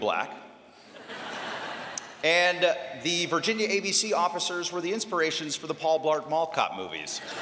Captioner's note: laughter